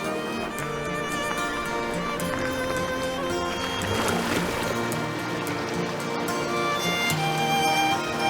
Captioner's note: water splashing